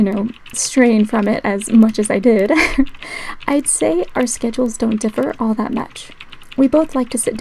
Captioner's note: laugh